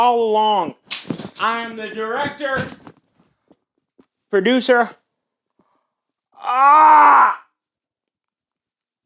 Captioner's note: groans